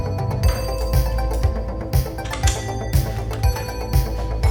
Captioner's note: pistol slide